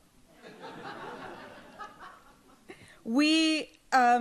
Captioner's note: audience laughs